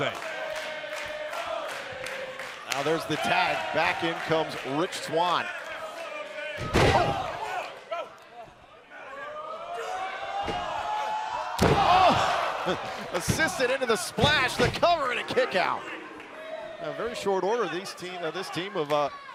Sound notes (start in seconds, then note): 2.4 crowd cheering; 8.6 crowd chatter